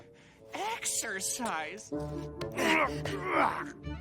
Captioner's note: grunting